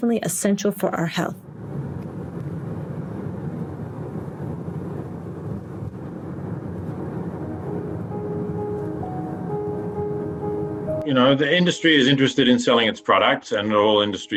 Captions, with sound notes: and it's definitely essential for our health. [car sound] You know, the industry is interested in selling its products